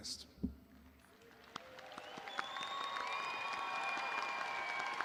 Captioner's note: audience applauding